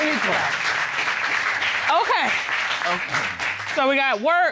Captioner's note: audience applauds